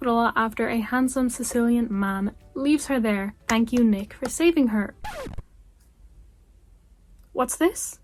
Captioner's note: record scratch